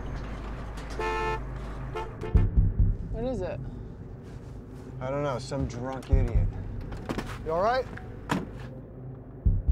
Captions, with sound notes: *Honking* What is it? I don't know. Some drunk idiot. You alright?